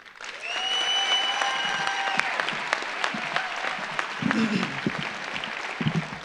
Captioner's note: audience applauds; audience cheers